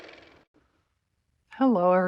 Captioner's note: car motor